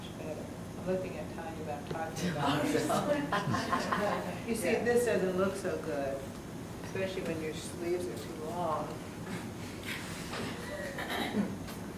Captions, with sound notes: That's much better. I'm looking at Tanya but I'm talking about me. (Students laugh) You see this doesn't look so good especially when your sleeves are too long.